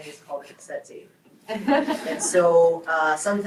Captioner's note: group laughs